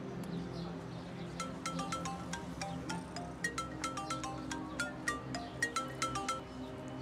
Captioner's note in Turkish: Telefon Çalıyor